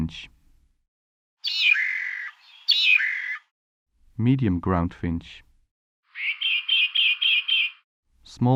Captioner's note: Darwin’s Finches calling